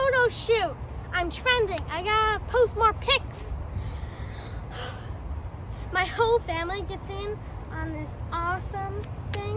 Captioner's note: she huffs